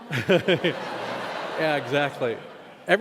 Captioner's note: laughing